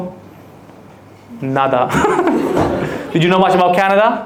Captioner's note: laughs